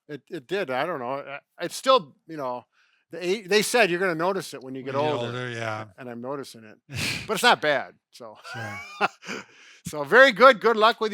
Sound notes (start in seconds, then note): 8.4 chuckling; 8.4 laughing